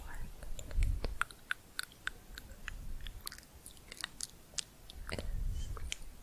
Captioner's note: tongue clicking and bubbling